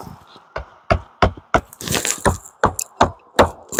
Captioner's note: hammering